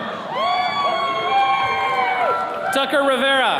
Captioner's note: attendees cheering